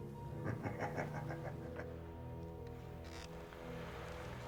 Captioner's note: Becker laughing